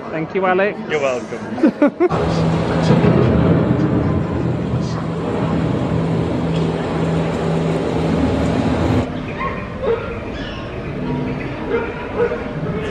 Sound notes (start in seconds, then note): 1.5 chuckles; 2.1 thunder rumbles; 9.5 dog barks